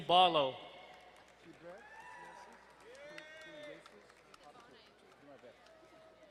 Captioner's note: crowd cheering and applauding